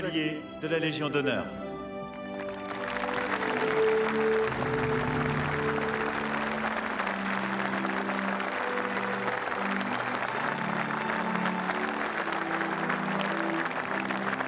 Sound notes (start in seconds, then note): 1.1 speaking french